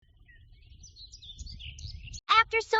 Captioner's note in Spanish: pájaros cantando